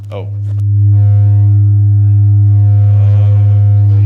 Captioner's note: feedback ringing